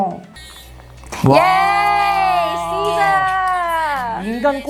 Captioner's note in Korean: 비명